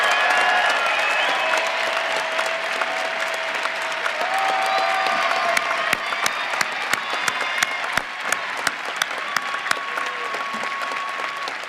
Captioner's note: cheering and applause